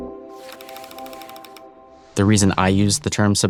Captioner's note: film reel clicking